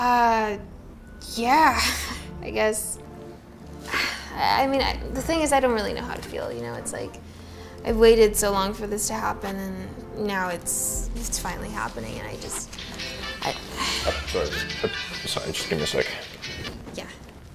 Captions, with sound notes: - Uh... yeah, I guess - Thing is... I don't really know how I am supposed to feel, you know?... ...Is like I waited so long for this to happen... ...and now it's finally happening and I just- (Cell phone rings) - Sorry... sorry, gimee one second. - yeah